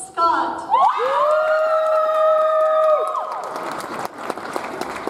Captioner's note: audience applauds